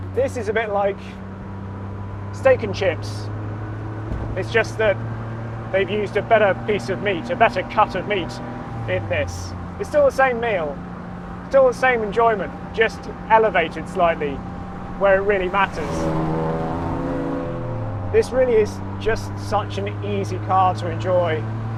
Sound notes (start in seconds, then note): 15.9 engine rumbling